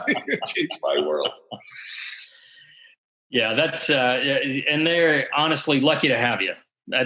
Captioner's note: laughs